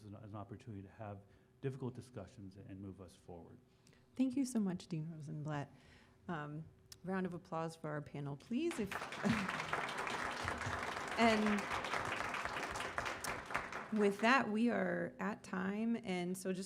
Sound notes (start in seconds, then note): 12.5 applause